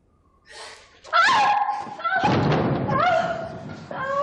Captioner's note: shrieks